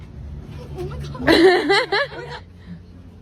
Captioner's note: laughing